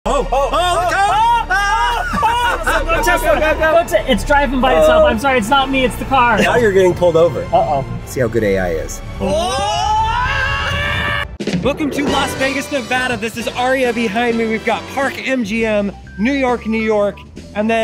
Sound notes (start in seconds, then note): 0.7 screaming; 9.2 screaming